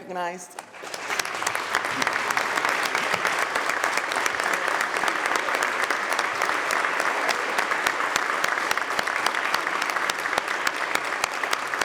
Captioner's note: applause